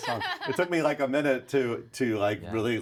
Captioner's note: laughs